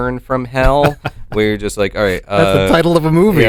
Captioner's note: chuckles